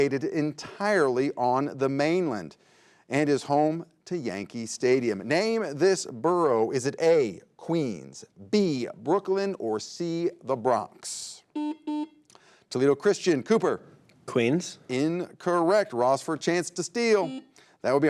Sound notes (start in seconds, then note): 11.5 buzzer beeps